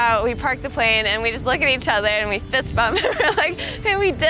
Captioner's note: laughs